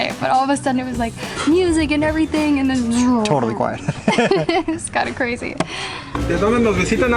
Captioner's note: laughs